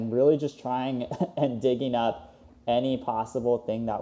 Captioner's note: laughs